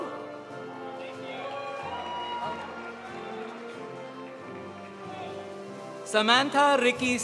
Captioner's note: audience applauding; audience cheering